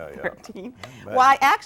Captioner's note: chuckles